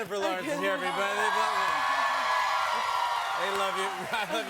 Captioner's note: cheers and applause